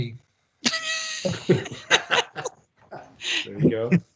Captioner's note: all laughing